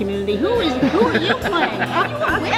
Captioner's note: laughing